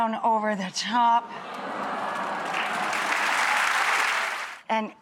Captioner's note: audience applauds and ahhs